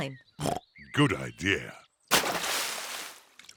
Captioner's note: oinks